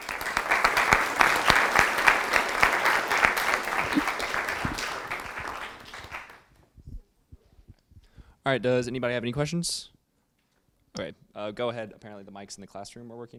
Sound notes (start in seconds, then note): 0.0 students applauding